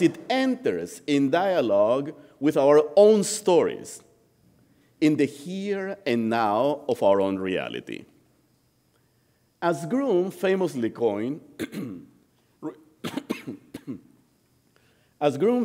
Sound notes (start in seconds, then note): 13.0 coughing